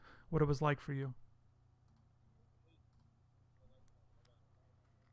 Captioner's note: audio cut out